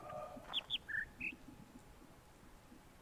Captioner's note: bird chirps high-high-low-mid